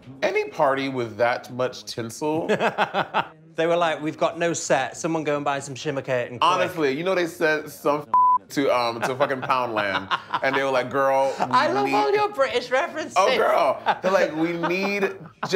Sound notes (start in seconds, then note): 2.6 laughing; 8.1 beep